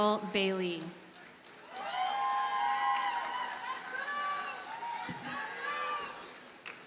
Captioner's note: audience cheers and applauds